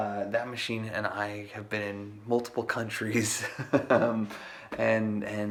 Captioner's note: laughs